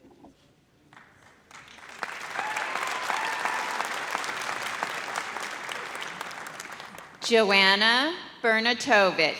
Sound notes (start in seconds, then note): 0.9 audience applauds